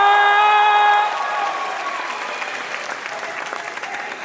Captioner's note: applause; cheering; applause